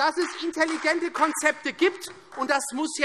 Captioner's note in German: Beifall Freie Demokraten und vereinzelt SPD